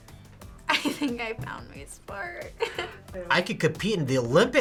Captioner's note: laughs